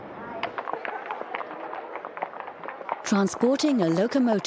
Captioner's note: hooves clopping